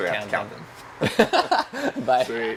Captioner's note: laughter